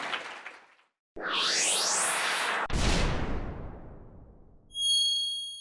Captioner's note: soaring sound imploading